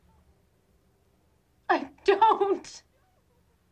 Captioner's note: crying